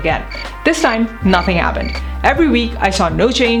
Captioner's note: crickets chirp